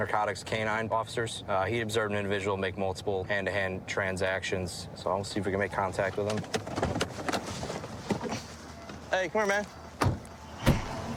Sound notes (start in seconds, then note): none